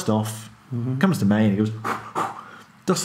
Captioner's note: blows heavily